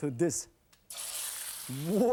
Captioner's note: sizzling